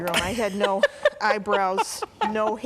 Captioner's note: laughing